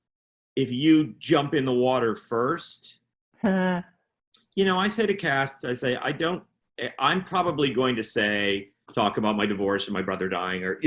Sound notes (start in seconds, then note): 3.5 chuckling